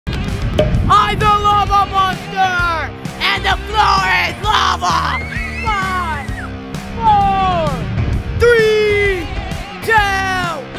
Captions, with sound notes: (clapping to rock music) - I'm the lava monster and the floor is lava. (girls screaming) Five, four, three, two, one, aaaaahhhh.